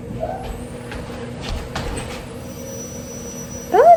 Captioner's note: please excuse the vacuum in the background